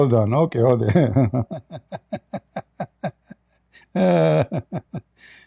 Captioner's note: Ketawa